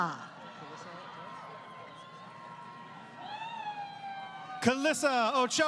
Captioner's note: crowd Cheering